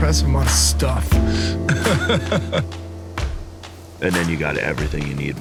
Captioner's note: laughs